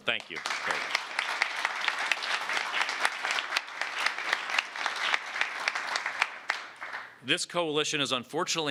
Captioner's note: applause